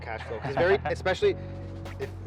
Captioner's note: chuckles